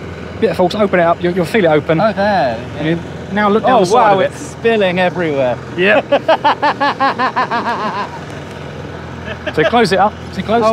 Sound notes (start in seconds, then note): 5.8 laughing